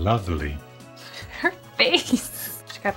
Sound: laughing

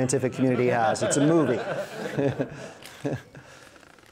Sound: laughs

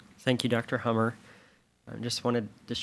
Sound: none

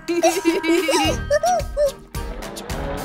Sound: laughs

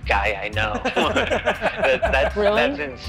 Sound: laughing

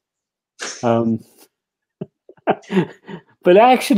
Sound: laughter

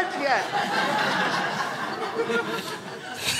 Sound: crowd laughs

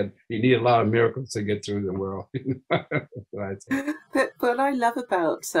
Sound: chuckling

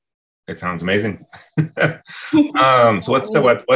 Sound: laughs

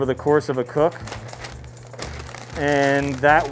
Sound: paper crinkles

